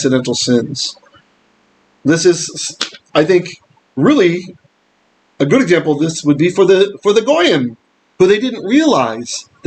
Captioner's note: Hebrew